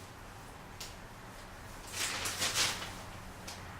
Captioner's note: paper rustling